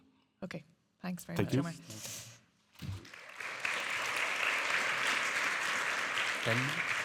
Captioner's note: audience applauding